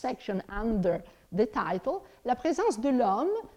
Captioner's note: speaks in foreign language